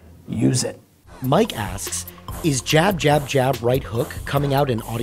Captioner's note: voiceover